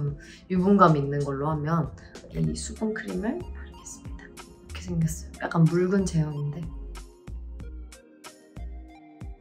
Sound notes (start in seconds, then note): 2.4 speaking in Korean